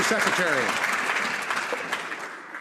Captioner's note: some Applause